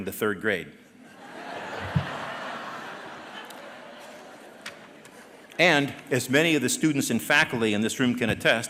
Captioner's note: laughter